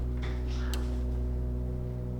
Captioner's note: front door opening